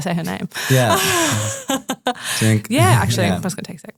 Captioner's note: laughs